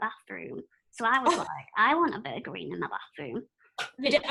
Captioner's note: laughter